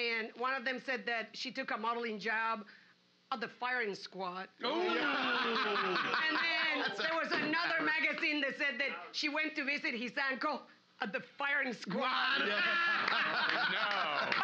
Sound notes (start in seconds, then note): 4.7 loudly laughing; 8.2 gavel knocking; 12.4 loudly laughing